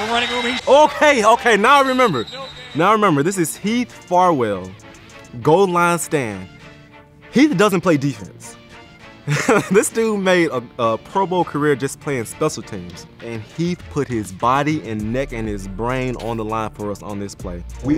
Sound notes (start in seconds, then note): 9.2 laughs